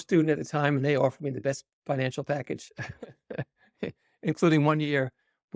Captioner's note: laughs